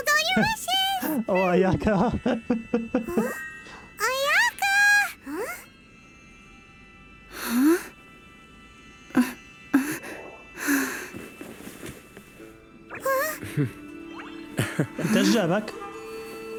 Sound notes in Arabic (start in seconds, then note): 8.2 ايمي تلهث; 13.2 ايمي تضحك